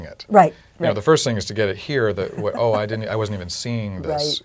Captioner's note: laugh